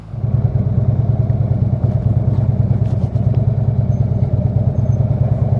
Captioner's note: motorcycle engine purrs